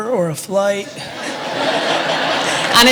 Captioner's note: audience laughter